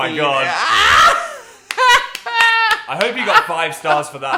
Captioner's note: Dan laughing